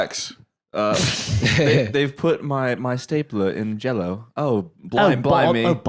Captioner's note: britishly